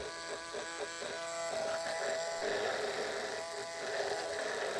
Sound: mixer whirring

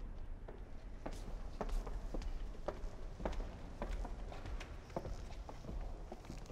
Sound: footsteps

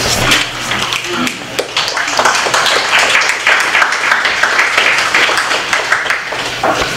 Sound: applause

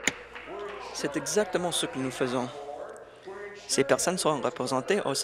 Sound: applause

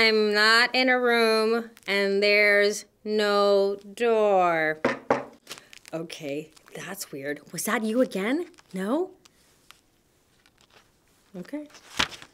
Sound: knock knock!

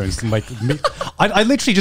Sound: laughs

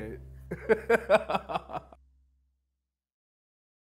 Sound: laughs

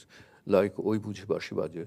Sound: speaks in a foreign language

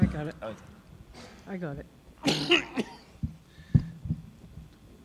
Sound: coughing

